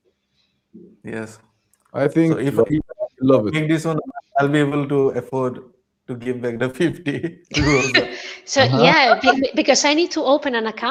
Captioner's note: laughter